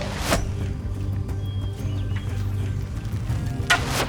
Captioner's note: lively tribal music; thump of arrow